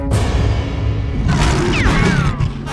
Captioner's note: growls